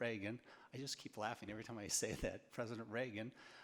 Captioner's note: laughs